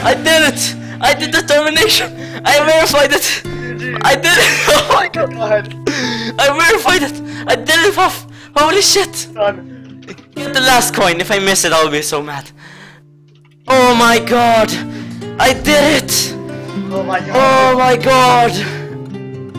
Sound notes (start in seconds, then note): 1.5 voice crack; 5.8 inhale; 12.5 inhale